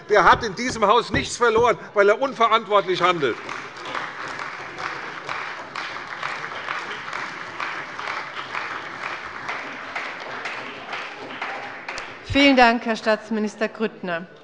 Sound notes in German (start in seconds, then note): 2.7 Beifall bei der CDU und dem BÜNDNIS 90/DIE GRÜNEN